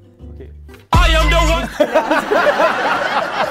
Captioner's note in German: Dröhnende Musik; Gelächter